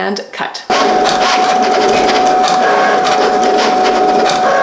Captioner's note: machine whirring